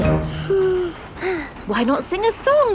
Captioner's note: both sigh